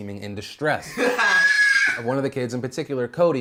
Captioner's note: loud screaming